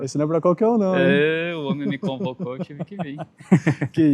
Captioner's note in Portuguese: risadas